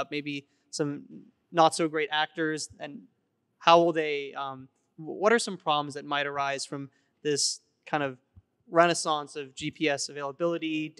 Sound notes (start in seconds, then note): none